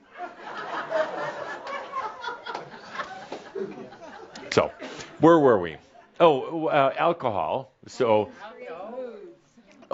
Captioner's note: laughter, as she goes outside